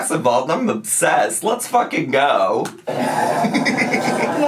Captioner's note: laughing